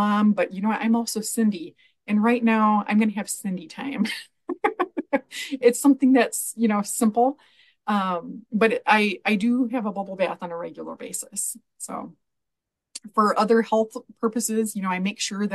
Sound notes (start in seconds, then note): 4.4 laughs